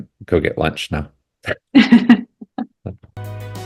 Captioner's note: laughter